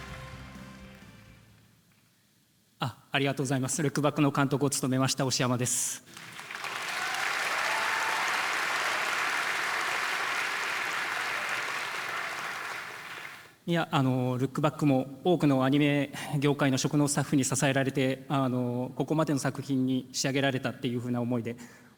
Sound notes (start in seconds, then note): 6.0 applause